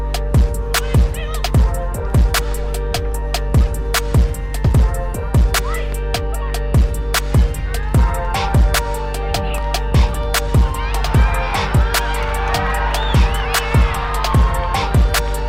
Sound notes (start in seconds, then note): 11.8 crowd starts cheering